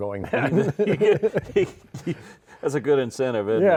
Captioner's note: both laughing